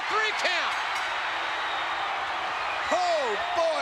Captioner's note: spectators cheering